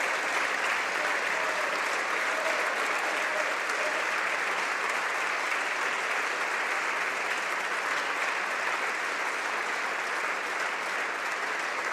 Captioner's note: applause